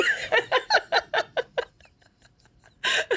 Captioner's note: laughing